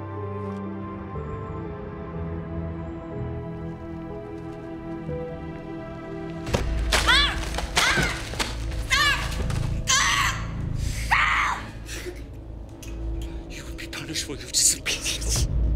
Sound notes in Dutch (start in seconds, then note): 7.0 Alejandra schreeuwt